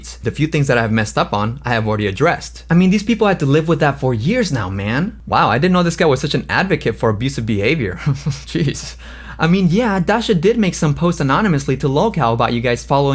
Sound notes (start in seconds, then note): 7.8 laughs